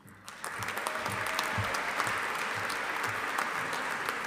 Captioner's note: audience applauding